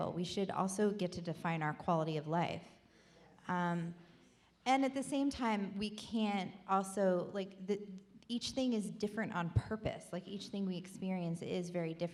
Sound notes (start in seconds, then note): none